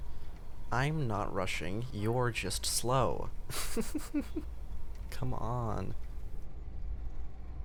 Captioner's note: giggles